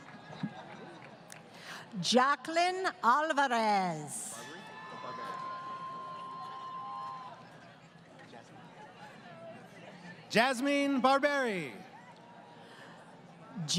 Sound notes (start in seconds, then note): 4.3 crowd Cheering